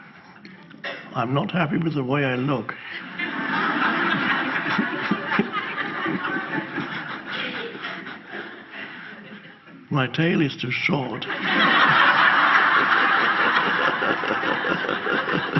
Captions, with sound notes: I'm not happy with the way I look. (audience laughs) My tail is too short. (audience laughs)